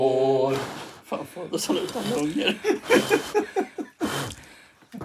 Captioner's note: breathy blowing